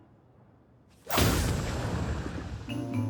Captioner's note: explosion